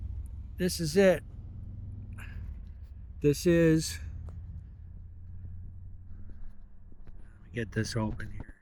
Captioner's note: laughs